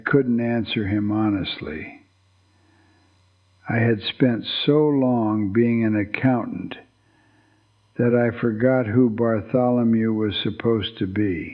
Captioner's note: whispers